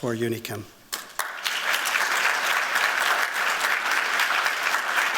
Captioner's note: applause